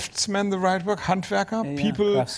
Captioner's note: german